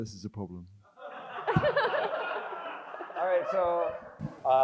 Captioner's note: crowd laughs